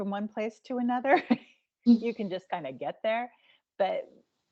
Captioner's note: giggling